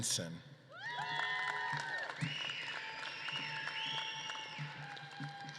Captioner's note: audience claps and cheers